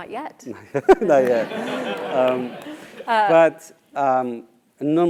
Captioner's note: laugh